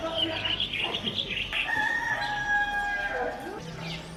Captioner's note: rooster is crowing